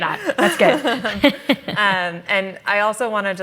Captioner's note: laughter